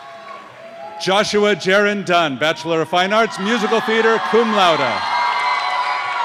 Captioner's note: cheers and applause